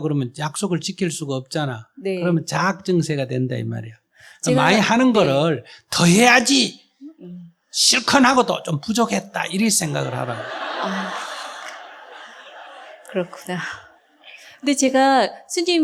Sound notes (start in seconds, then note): 9.4 audience Laughter